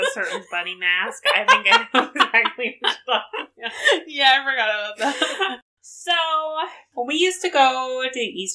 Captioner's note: laughs